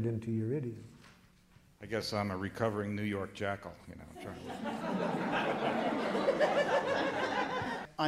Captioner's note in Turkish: Gülüşmeler